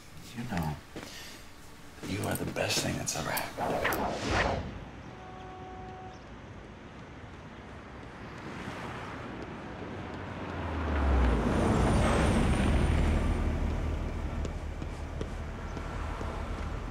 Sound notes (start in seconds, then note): none